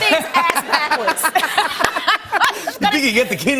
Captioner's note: laughter